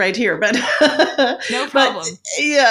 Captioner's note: chuckles